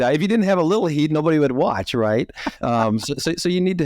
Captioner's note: laughing